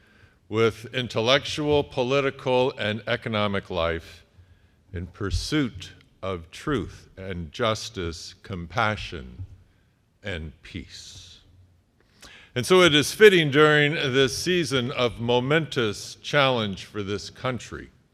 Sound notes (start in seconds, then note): none